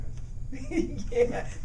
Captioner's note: laughing